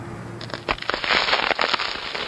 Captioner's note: crispy crunch